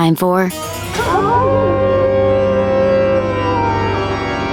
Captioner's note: howling